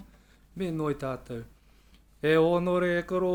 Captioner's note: speaking Maori